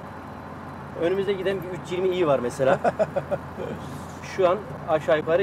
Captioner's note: laughing